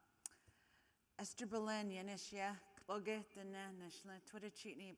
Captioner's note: speaking in foreign language